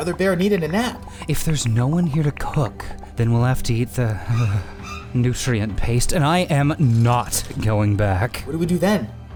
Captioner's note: shivers